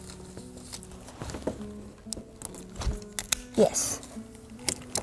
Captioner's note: rustling